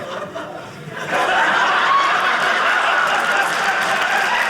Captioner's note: audience laughing; audience cheering